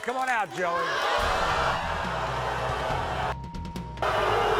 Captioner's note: audience boos